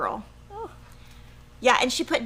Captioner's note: exclaims